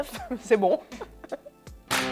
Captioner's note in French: rires